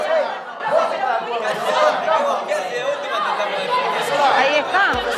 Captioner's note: bustle